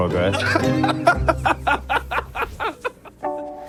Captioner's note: laughs